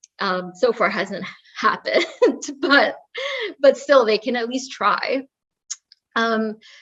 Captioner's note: laugh